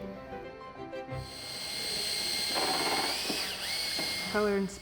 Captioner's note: machine whirring